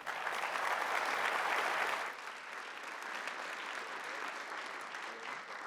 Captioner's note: applause